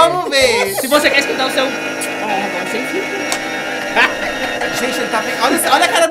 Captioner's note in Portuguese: risos